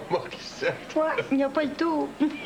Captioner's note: Rires